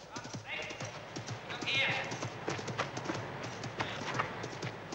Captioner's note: man shouting indistinctly